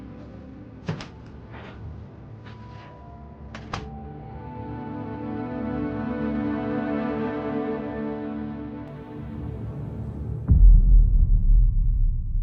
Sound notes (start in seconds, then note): 3.5 door closing; 6.6 somber music